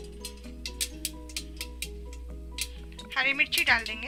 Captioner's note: crackling sound